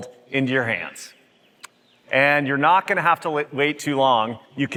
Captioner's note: none